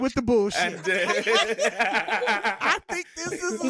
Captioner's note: laughing